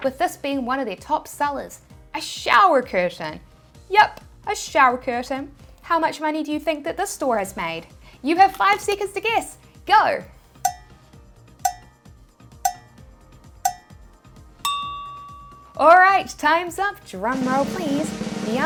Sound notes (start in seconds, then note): 10.6 clock ticking; 17.2 drum rolls